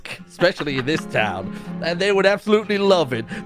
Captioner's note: starts to laugh